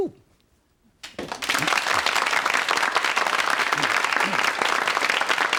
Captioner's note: audience clapping